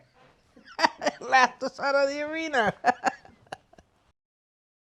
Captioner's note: laughs